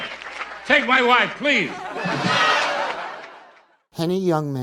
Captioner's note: audience laughing